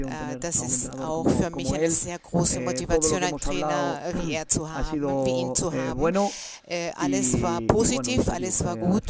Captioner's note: coughs